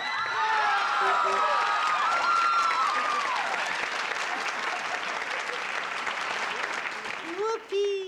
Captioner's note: cheering